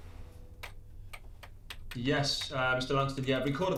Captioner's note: gentle orchestral music continues; keys clacking